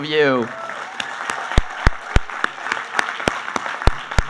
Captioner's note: applauding